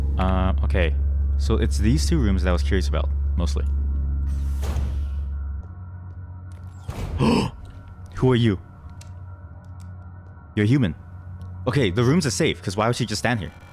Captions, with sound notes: Um, okay, so it's these two rooms that I was curious about, mostly. *gasp* who are you!? You're human! Okay, the rooms are safe, 'cause why would she just stand here?